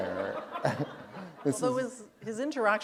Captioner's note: laughter